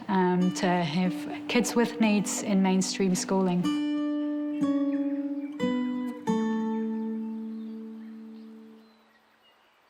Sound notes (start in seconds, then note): 4.6 pensive guitar music; 6.6 birds twitter